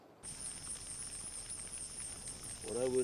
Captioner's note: fire crackling; cicadas chirping